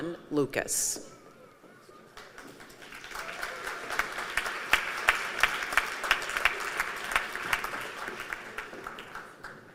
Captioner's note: applause